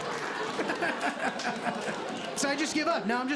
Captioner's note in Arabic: يضحك